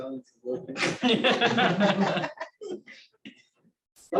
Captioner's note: laughter